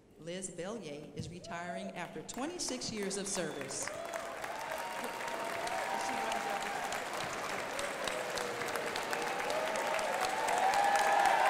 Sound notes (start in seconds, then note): 3.3 crowd applauding